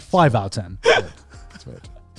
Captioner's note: laughing